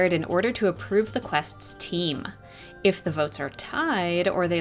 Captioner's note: none